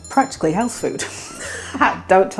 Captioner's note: laugh